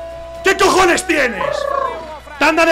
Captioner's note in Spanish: resopla